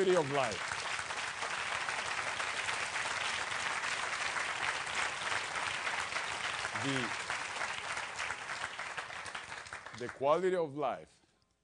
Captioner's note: applause